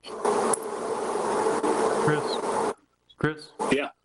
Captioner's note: microphone static